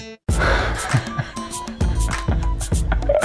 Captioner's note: laughs